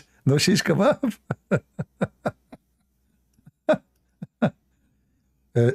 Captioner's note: Ketawa